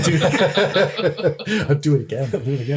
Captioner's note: laughs